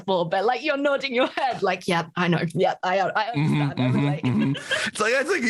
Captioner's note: laughs